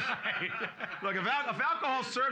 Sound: loudly laughing

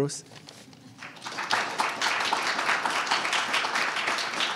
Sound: audience applauding

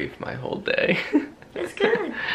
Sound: chuckling

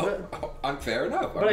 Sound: stammering

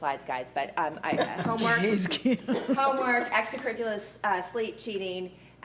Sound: laughing

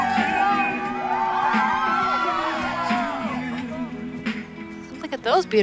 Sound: cheering

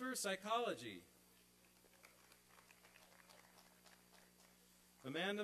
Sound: applause and cheering

